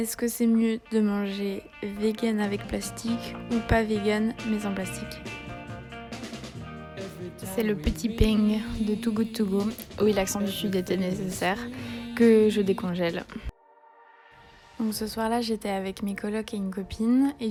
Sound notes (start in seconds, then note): 8.1 said with south French accent